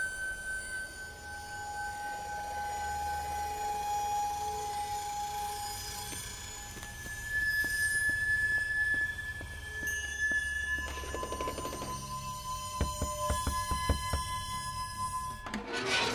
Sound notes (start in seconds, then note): 12.7 knocking